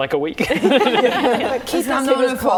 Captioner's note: laughing